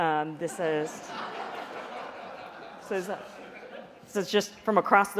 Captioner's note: laughter